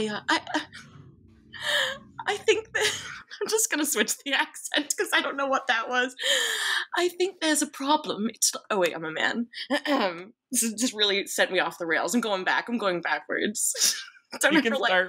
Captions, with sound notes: I think that... (laughs) I'm just gonna switch the accent 'cause I don't know what that was. I think there's a problem. Oh, wait. I'm a man. This just really set me off the rails. I'm going back, I'm going backwards.